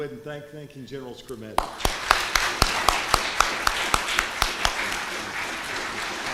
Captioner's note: applause